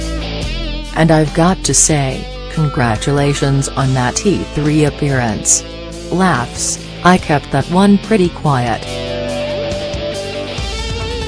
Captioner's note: laughs